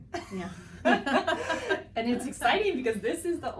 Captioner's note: both laughing